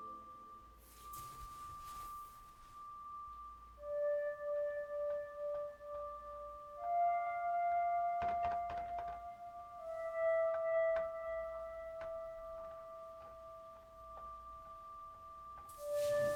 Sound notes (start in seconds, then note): 0.1 soft creepy music; 8.5 footsteps tapping